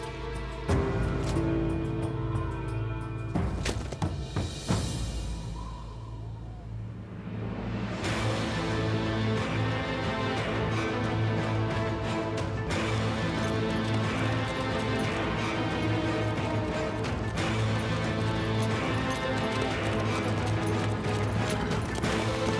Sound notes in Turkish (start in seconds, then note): 0.2 Gerilim müziği; 5.8 Rüzgâr esiyor; 19.5 Gerilim müziği